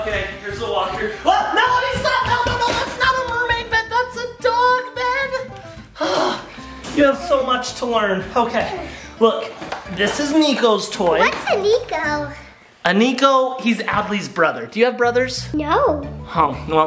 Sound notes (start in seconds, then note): 5.9 exhales